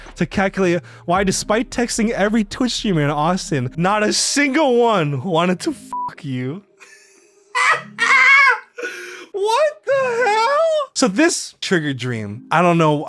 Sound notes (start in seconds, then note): 5.9 beeps; 6.8 laughing